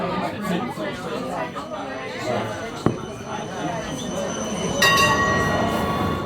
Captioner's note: that beautiful tram sound; ding ding!